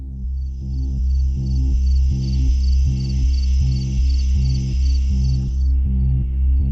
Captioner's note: tense sinister music; insects chirping